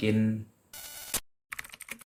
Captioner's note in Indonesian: suara interferensi; suara mengetik